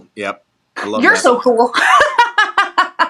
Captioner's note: laugh